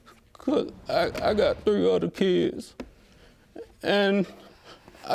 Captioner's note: voice breaking